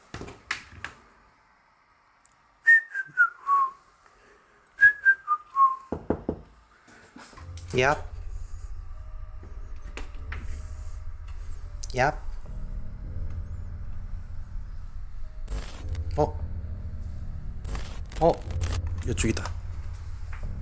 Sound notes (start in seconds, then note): 0.1 the sound of opening the door; 2.6 whistling; 5.9 knocking on the closet